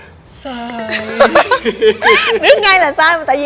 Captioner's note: laugh